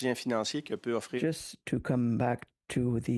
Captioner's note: speaking French